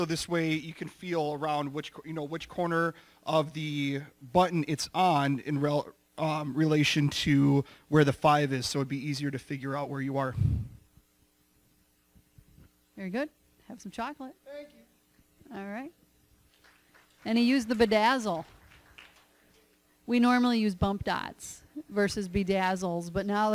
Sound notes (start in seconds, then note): 16.4 applause